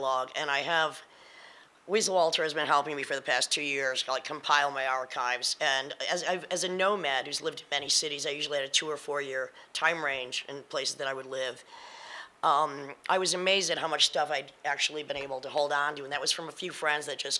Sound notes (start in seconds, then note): none